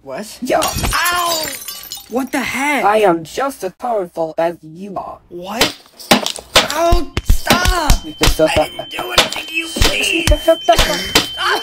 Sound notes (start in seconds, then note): 6.0 more punches and slaps; 6.0 punches and slaps; 6.1 gets slapped